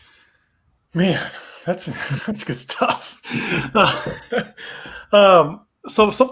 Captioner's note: laughs